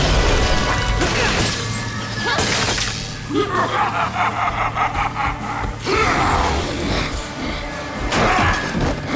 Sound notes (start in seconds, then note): 3.3 cackling